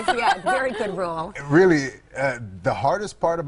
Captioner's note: laughter